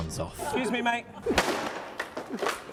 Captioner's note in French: smash